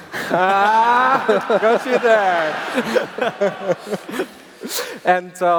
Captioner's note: laughs